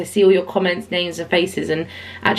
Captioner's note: none